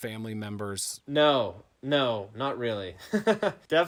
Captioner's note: laughing